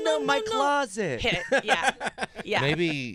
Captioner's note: laughing